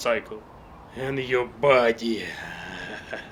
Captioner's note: maniacal laugh intensifies